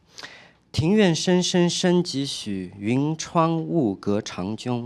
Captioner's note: speaking chinese